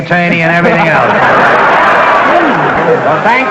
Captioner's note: audience laughter